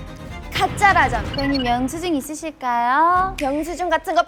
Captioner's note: switches to a robotic response